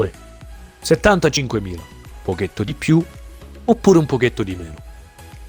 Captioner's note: renzo speaks italian